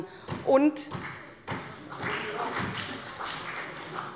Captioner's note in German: Beifall bei der SPD